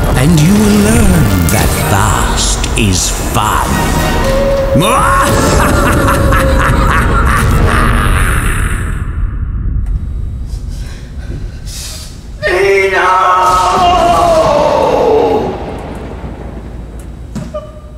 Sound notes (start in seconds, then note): 5.2 evil laugh; 12.2 sniffling; 15.2 thunder